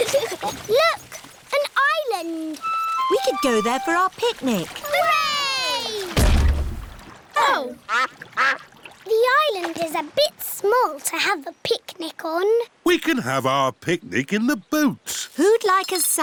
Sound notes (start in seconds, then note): 0.1 both giggle; 5.5 peppa and george cheer; 6.1 thud